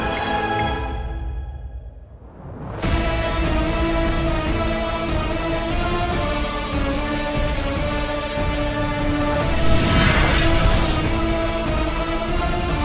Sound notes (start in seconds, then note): 2.5 suspenseful music plays; 9.3 whooshing sound